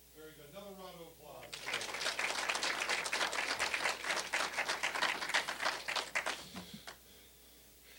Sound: applause

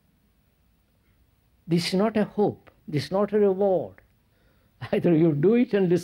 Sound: laughs

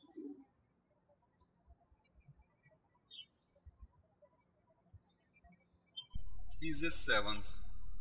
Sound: birds chirping

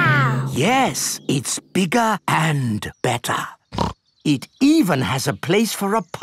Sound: snorts

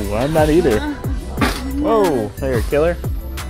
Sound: cart thumping

